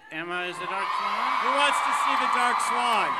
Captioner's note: crowd cheers